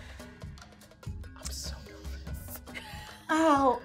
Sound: speaker speaks in a low tone

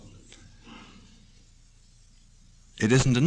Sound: pause

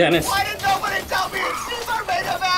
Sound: person Running

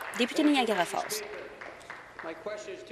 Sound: applause

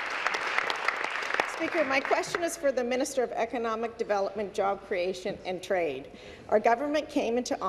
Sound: applause

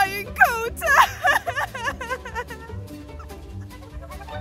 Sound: crying

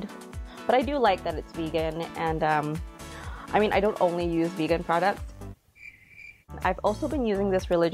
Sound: crickets

